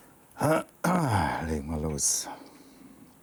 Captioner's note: clears throat